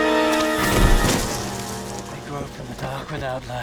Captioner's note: thuds